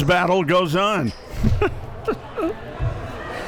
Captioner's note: giggles